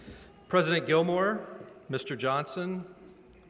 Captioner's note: none